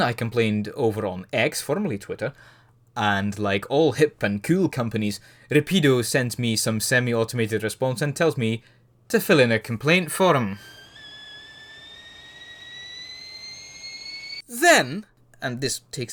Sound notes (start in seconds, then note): 12.6 kettle whistle